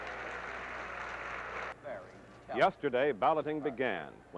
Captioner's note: cheers and applause